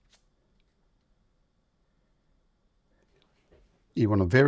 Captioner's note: silence